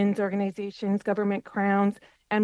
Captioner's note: speaking French